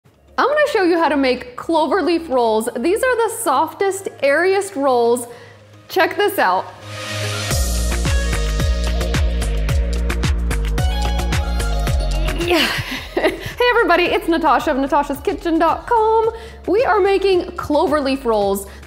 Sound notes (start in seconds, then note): 6.8 upbeat music; 12.2 laughs; 12.4 grunts